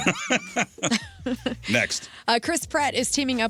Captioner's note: laughing